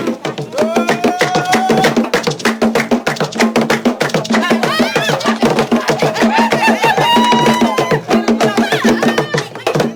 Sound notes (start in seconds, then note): 0.2 rhythmic music; 0.5 participants cheering